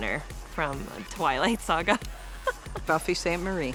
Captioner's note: laughing